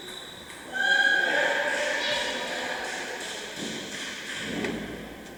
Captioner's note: applause